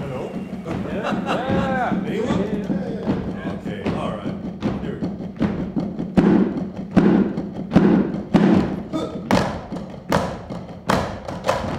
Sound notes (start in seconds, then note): 0.6 laughs; 6.9 drumsticks thumping